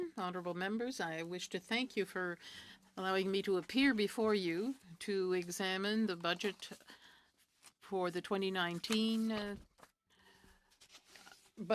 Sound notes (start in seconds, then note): 3.9 speaking in French